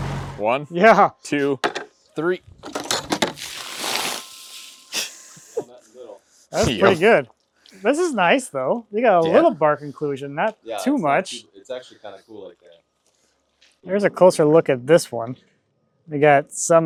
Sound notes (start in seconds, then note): 3.1 water splashing